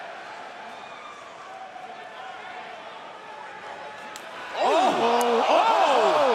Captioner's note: crowd chatter